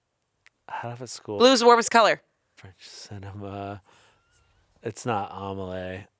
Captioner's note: none